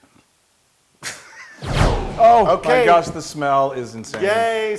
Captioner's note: laugh